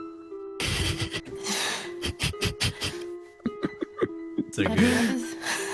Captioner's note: snickering; soft chuckle